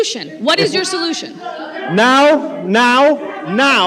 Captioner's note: shouting